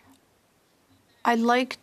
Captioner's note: speaking French